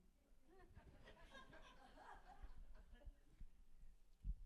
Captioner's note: people laughing